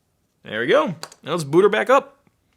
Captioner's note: clicking